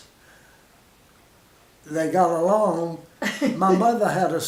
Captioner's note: laughs